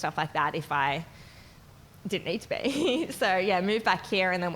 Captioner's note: chuckles